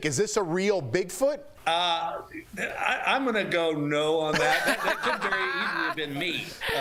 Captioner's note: laughter